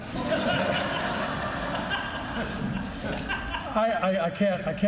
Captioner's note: laughing